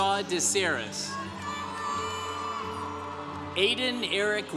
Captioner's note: congregation cheering